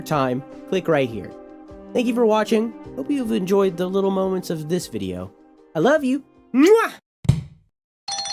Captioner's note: mwah